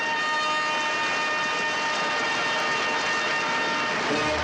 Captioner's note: triumphant fanfare music; audience applauds